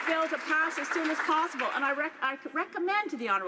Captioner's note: some Applause